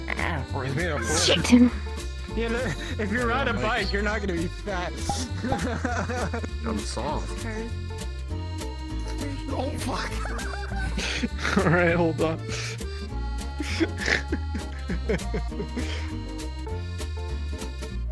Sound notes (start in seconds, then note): 5.0 laughing; 9.8 laughing; 9.9 chuckling